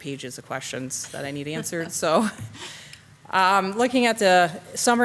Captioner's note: chuckles